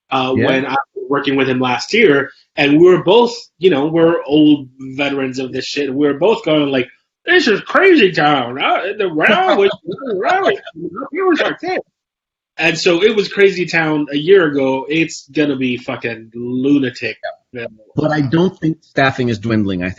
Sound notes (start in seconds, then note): 7.5 Jose's mic warbles; 8.5 laughs; 15.2 Jose's mic warbles